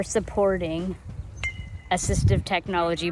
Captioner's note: ball pings off of metal bat